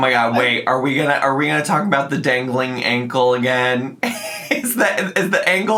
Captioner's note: laughs